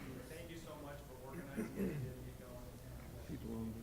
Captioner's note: speaks softly